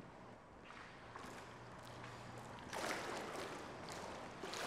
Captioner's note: water splashes